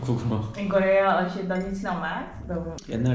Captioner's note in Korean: 네덜란드어 통역중